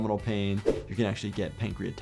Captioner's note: screen whooshing